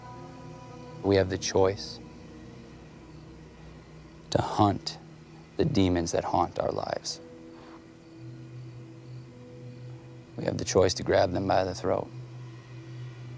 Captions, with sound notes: - We have the choice, to hunt the demons that haunt our lives. (crickets chirping) (tense music) We have the choice to grab them by the throat.